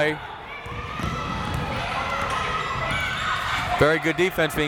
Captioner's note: crowd members shouting